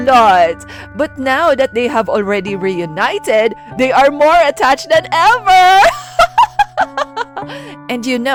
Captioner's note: laughs